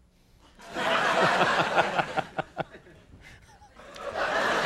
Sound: audience laughing

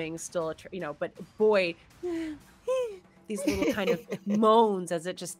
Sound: moans

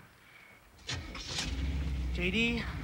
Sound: engine revs

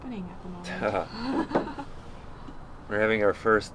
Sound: laughing

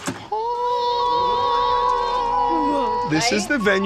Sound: all ooh-ing

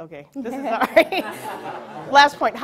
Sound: audience laughs

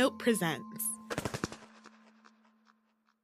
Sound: wingflap Sfx

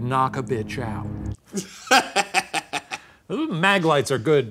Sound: laughing

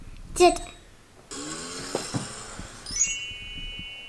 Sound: car revving

